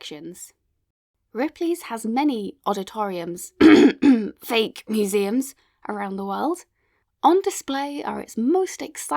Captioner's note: coughs